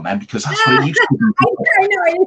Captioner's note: laughs loudly; voice fades